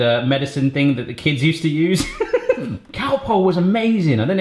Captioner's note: laughs